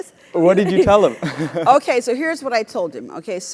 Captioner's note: laugh